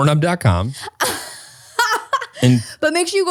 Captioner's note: laughs